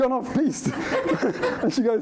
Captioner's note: laughter